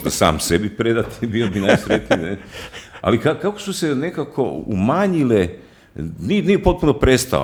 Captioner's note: laughter